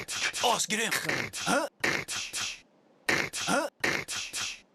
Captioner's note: beatboxing